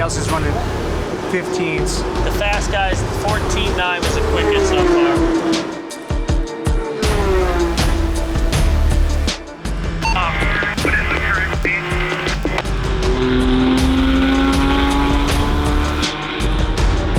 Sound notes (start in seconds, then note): 4.8 tense music; 5.9 engines revving; 14.0 engine revving; 17.0 tense music continues